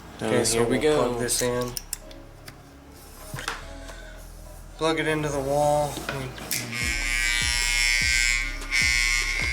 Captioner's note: motor vibrating